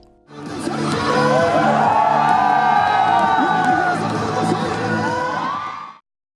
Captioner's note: music and shouts of supporters